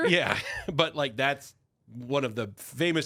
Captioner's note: laughs